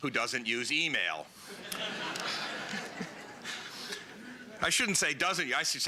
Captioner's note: laughter